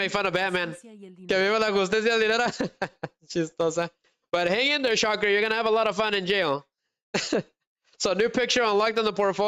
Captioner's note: laughter